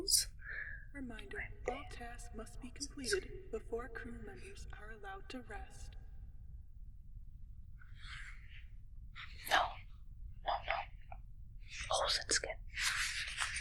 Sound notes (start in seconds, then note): 1.1 voice over intercom